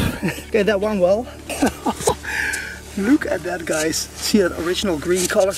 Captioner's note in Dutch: lacht